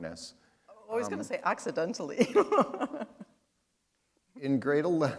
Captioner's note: chuckle